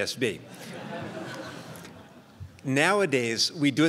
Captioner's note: crowd laughs